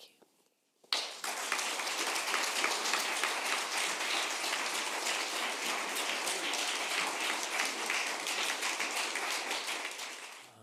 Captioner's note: applause